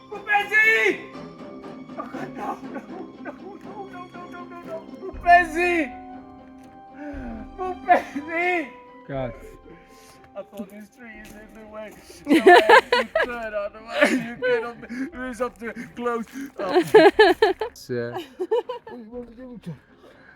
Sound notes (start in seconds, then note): 10.2 comic voice; 13.8 laughing